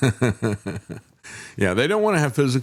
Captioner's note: laughing